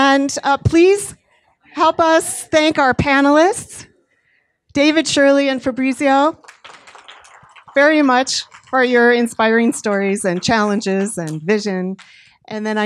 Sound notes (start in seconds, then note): 7.2 audience clapping